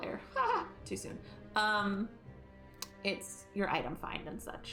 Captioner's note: exaggerated laughter